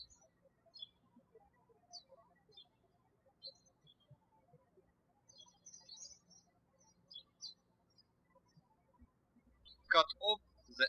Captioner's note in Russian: птички щебечут